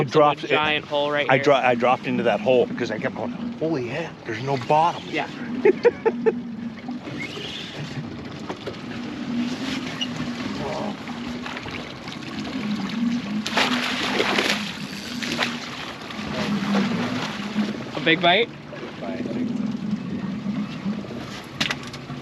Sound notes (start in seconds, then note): 5.4 chuckling; 6.9 reel cranking; 12.1 fish splashing